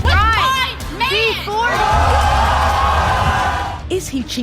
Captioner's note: audience yells